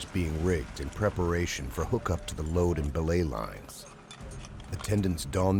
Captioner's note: voiceover